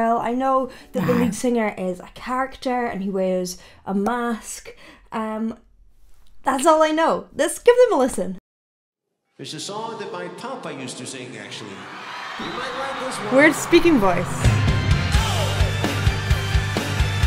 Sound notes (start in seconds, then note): 11.3 audience cheering; 14.5 upbeat music